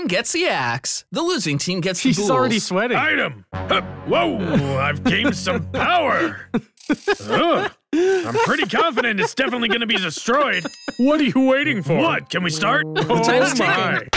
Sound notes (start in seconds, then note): 9.9 laughs